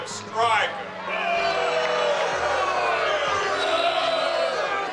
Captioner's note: spectators boo